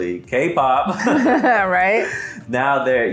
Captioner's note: laughs